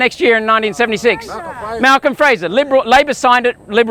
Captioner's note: crowd